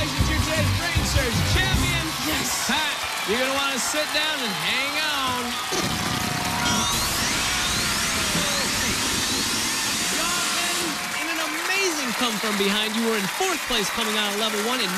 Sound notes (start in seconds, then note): 6.6 farting noise